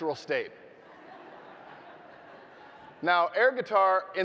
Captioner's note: audience laughing